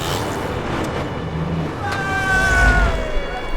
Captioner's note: engine revving; cheerful yelling